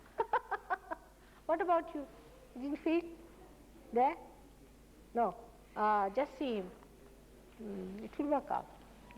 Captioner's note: mother laughs